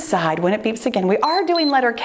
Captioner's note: timer beeps